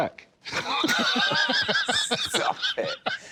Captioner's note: laughter